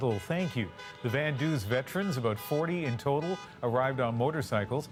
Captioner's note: horns honking